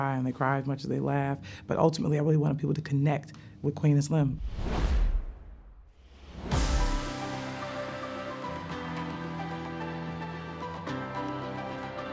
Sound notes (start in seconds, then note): 4.3 whooshing; 6.4 upbeat music